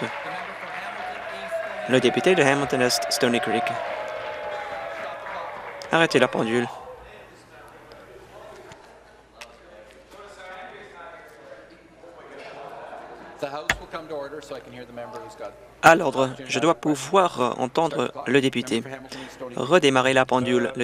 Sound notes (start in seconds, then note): 0.0 applause; 6.5 cheers